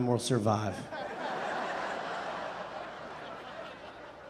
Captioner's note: audience laughing